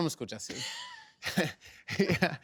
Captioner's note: laughs